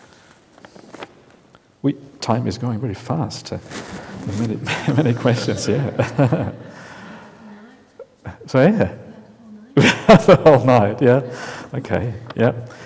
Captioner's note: laughs